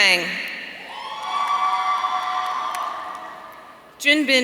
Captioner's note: audience cheering